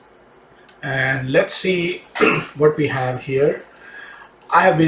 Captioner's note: clears throat